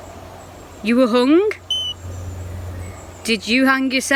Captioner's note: beep